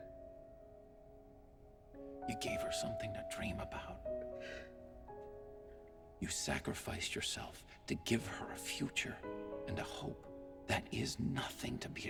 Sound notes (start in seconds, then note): none